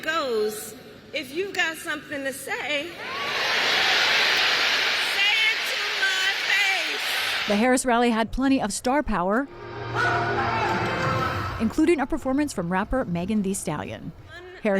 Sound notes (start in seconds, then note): 7.4 applause; 7.4 cheering